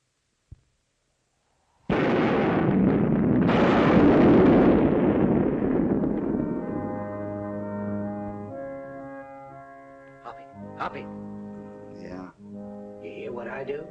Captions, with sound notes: [ LOUD THUNDERCLAP ] [ PIPE ORGAN CHORDS ] Hoppy. Hoppy! - Yeah? - You hear what I do?